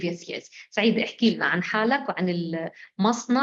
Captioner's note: speaking arabic